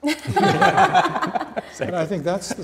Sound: laughing

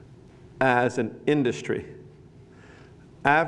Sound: none

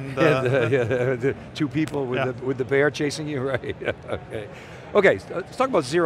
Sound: laughs

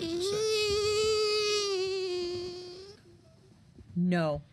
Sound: squealing

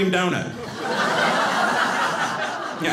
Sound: audience laughing

